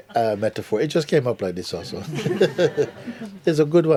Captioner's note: laughter